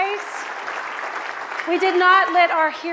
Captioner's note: audience applauds